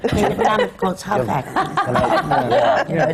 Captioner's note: laughter